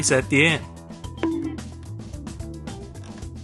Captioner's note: bonk